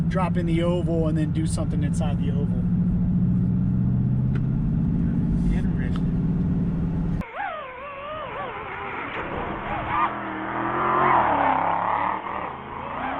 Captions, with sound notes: drop in the oval and then do something inside the oval. (car engine revving) - Interesting. (car tires screeching)